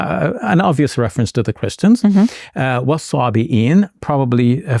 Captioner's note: speaking in Arabic